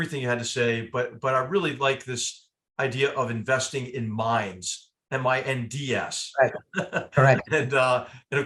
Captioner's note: laugh